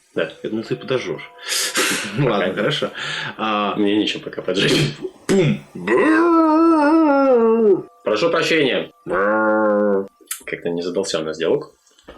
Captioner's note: angry zombie noises; zombie noises